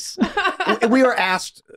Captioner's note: laughing